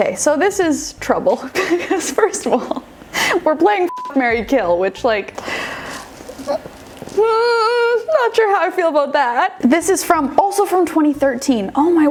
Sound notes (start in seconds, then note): 3.9 beep